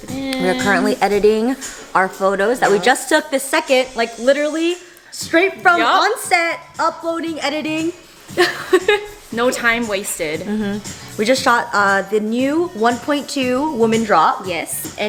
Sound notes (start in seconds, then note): 8.4 laughing